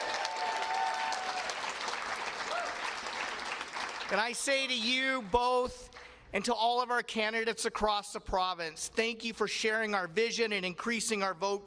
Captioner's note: applause